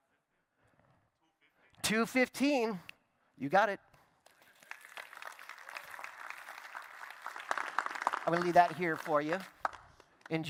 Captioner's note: applause